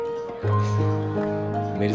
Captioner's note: Azi sighs